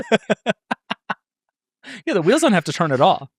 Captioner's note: laughing